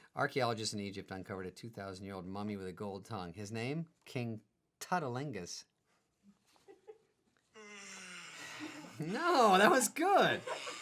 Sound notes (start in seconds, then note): 7.6 man yawning